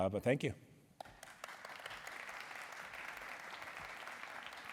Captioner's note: applause